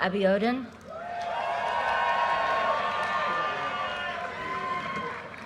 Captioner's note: audience cheers and applause